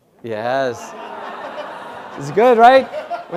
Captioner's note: laugh